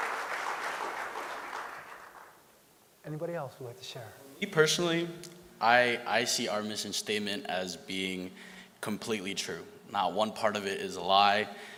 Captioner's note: applause